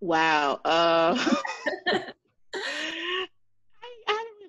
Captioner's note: laughs